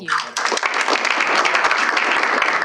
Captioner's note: applause